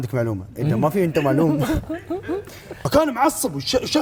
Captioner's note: Indian accent